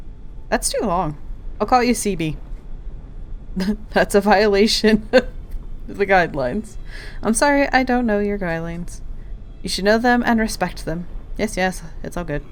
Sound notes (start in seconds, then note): 4.6 laughing